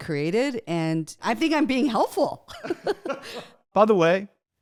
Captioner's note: both laugh